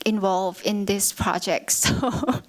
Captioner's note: chuckles